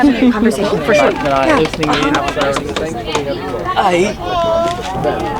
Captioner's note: people chattering